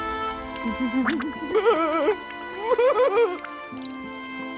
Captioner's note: sobbing